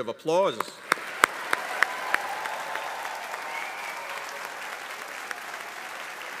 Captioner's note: attendees cheering; audience applauding